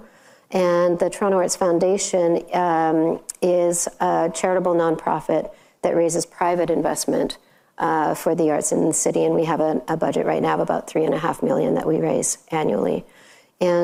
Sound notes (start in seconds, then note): none